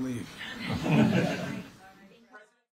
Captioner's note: laughter